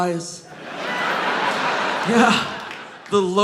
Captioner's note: audience laughing